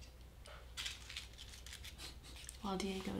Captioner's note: crumpling paper